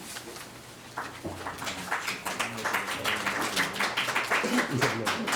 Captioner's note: audience claps